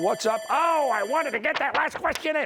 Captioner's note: bell ringing